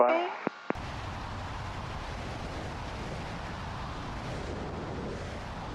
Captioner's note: plane engine whirring